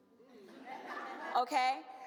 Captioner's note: audience laughs